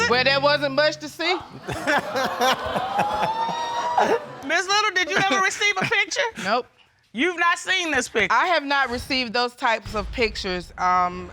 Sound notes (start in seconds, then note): 1.5 all laughing